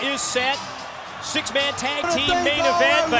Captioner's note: crowd cheering